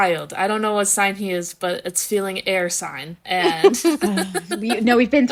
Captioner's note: laughing